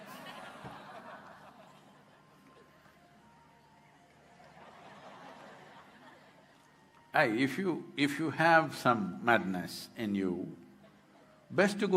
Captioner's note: laughter/Applause